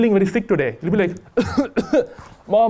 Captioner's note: cough cough